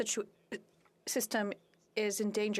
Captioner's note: speaking French